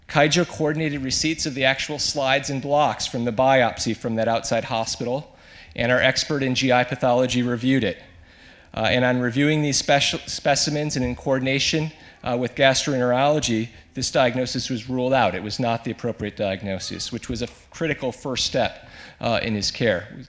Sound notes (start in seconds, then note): none